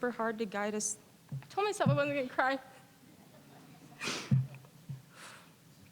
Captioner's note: voice wavering